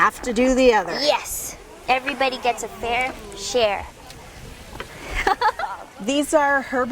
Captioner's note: laugh